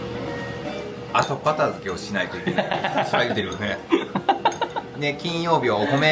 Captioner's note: laugh